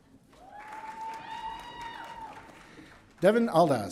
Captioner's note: audience cheering